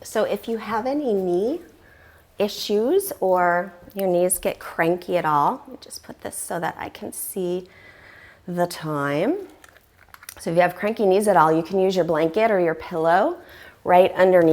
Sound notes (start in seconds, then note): 3.6 deep breathing sounds